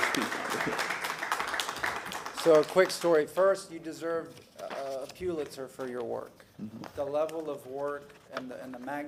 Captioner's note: applause